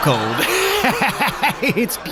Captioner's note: laughs